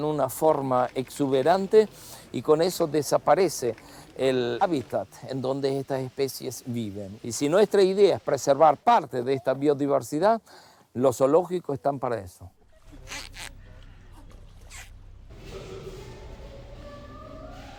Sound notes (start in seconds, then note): 13.0 penguin squawking